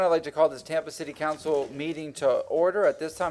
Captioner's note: sounding gavel